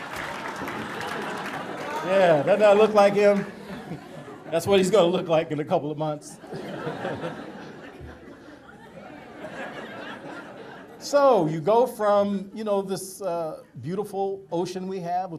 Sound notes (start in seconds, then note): 0.0 audience laughter and applause; 6.2 audience laughter; 6.4 chuckles